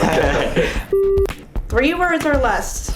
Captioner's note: interviewee laughs; beep